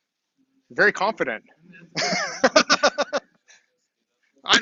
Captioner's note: laughs